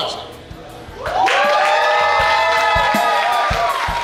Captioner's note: cheering; bouncy music